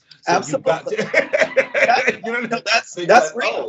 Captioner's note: laugh